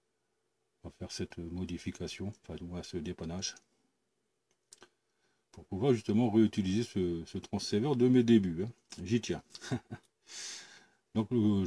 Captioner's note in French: Rire…